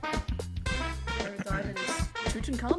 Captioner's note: clears throut